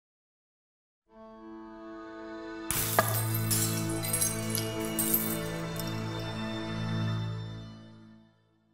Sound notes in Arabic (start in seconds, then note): 2.4 موسيقى درامية; 2.7 تحطيم الزجاج